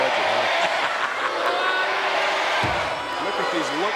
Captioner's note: commentator laughing